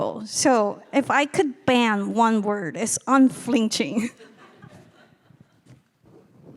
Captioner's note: laughing